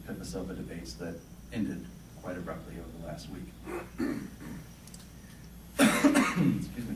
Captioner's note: coughing